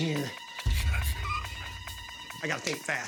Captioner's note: chittering